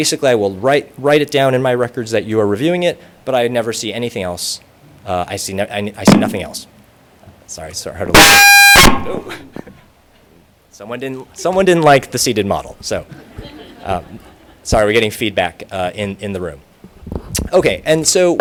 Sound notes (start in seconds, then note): 8.1 loud Feedback Noise; 9.9 laughter